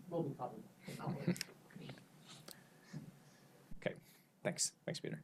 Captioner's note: laughs